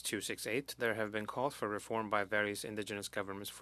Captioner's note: speaking French